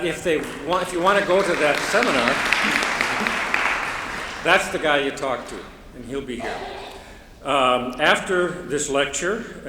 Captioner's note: applause